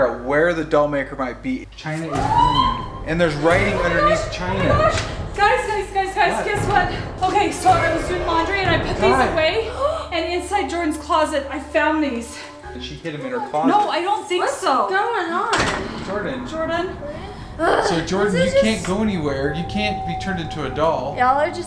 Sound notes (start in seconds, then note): 2.1 woman screams off camera; 7.5 suspenseful crescendo